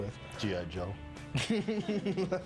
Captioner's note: laughing